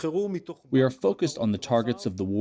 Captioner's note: through translator